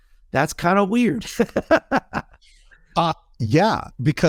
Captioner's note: laughing